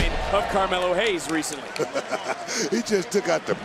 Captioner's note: chuckles